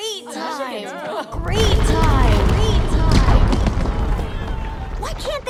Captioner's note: echoing